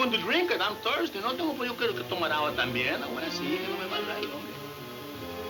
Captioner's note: speaking in foreign language; ominous music